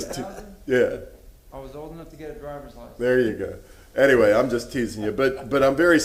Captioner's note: laughter